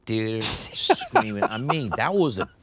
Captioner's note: Ryan laughs